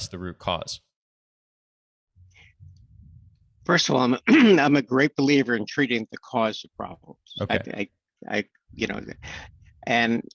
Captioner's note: clears throat